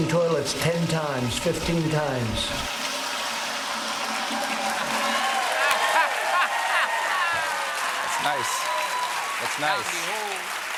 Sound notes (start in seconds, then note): 8.7 cheers and applause